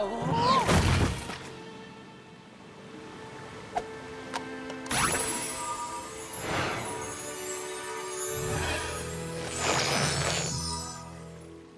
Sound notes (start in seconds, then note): 0.1 thud!; 5.0 tinkling